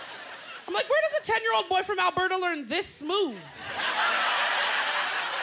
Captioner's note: laughter